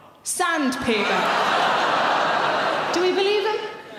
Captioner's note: audience laughs